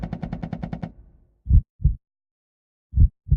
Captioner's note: heartbeat sound